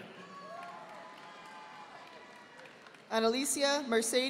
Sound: audience applauding

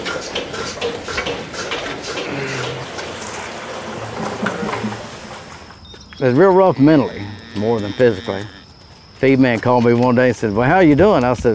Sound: sounds of machines

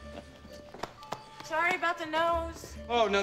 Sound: <i> chuckling</i>

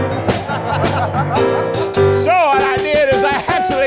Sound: audience laughing

